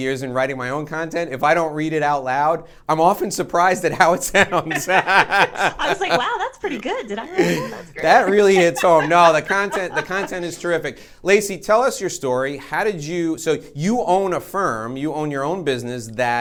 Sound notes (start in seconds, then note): 4.4 laughing